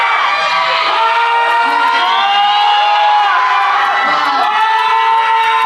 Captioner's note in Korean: 박수